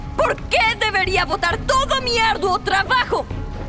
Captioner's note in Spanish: none